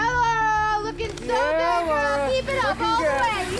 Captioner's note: cheering